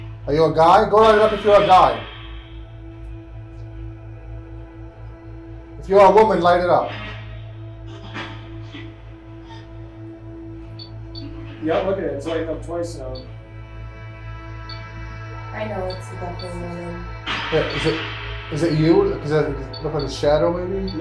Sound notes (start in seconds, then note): 8.3 radio noise hissing; 11.1 device beeping; 15.8 device beeping